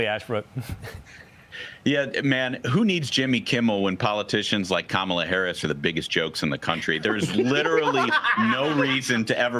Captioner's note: laughter